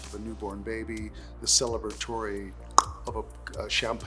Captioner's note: tongue clicking